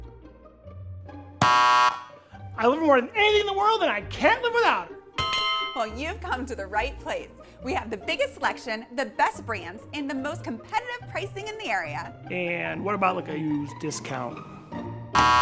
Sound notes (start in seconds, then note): 0.1 playful music; 1.5 bell buzzing; 5.2 bell dinging; 15.2 bell buzzing